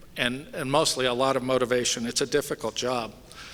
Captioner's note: none